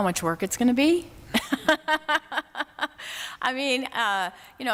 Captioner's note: laughter